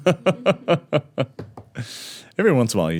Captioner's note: laughing